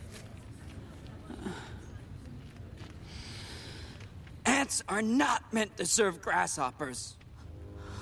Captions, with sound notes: [Inhaling Deeply] Ants are not meant to serve grasshoppers!